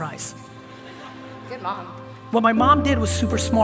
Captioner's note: laughter from audience